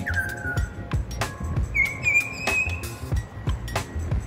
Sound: butcherbird chirping

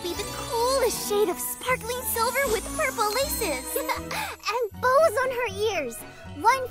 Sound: giggles

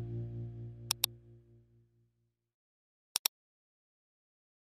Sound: mouse clicking

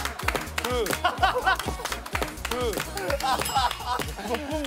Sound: bursts out laughing

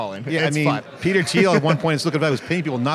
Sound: chuckling

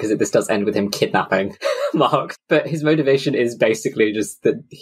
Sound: laughs

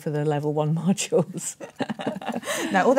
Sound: laughter

